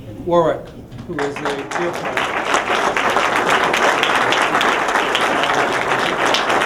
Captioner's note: applause